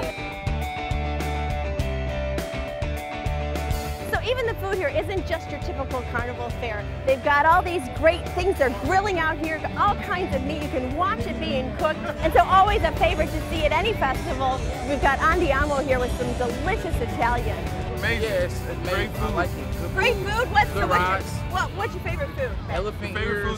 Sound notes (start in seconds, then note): 17.7 indistinct chatter